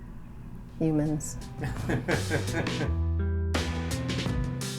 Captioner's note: laughs